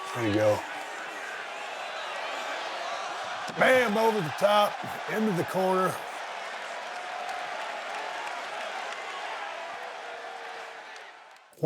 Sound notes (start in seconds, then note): 6.2 audience cheering